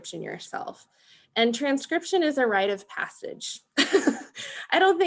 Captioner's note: laughing